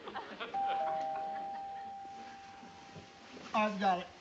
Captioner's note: doorbell dings